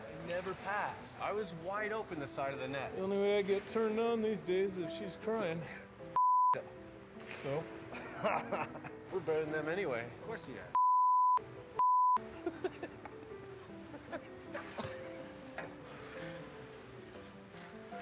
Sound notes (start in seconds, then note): 7.9 chuckles; 11.8 laughing